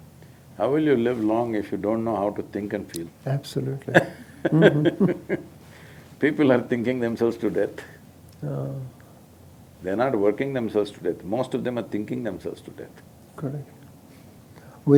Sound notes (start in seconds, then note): 3.8 both Laugh